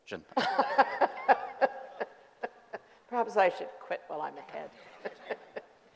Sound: laughing

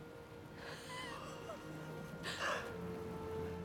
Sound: laughs

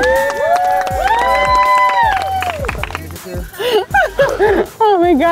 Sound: all applauding and cheering

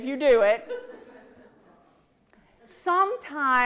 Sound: audience laughs

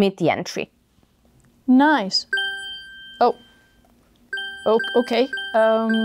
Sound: phone starts dinging

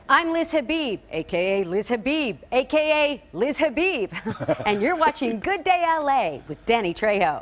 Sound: laughter

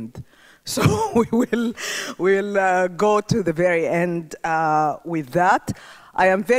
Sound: chuckles

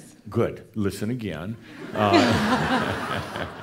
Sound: laughter

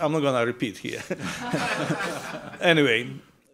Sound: all laughing

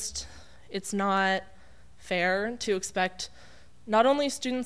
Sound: none

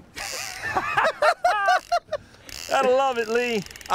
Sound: laughs

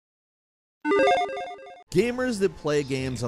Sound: electronic chiming

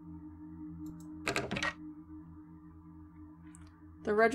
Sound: drawer Rattles

